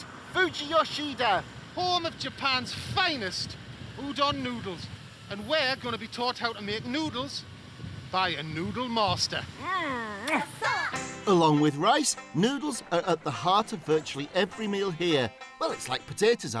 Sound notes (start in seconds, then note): 10.2 lip smacking